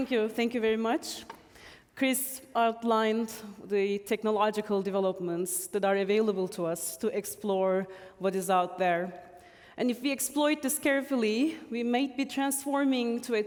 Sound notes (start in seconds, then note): none